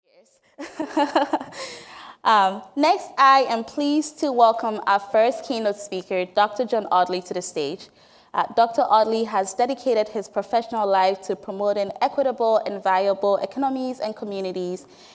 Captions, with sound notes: Yes. [LAUGHS] Next, I am pleased to welcome our first keynote speaker, Dr. John Audley, to the stage. Dr. Audley has dedicated his professional life to promoting equitable and viable economies and communities